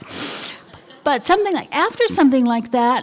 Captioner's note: laughter